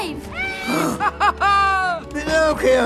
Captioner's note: Cricket exclaiming